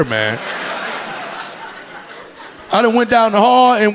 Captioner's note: audience laughing